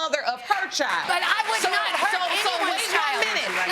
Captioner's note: audience applauding